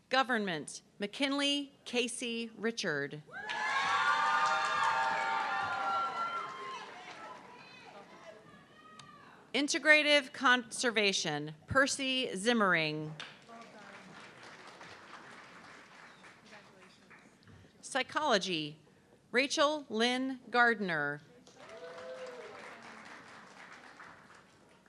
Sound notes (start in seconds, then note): 3.4 audience clapping and cheering; 13.2 audience clapping; 21.5 audience clapping